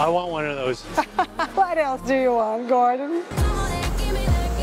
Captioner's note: laughs